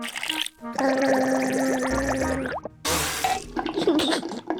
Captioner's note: gargles